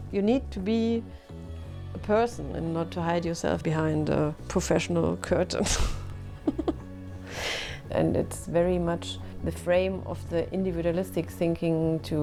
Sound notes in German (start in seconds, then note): 6.4 lacht